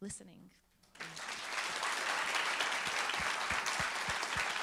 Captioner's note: applauding